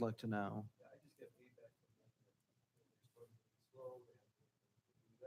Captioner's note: speaking faintly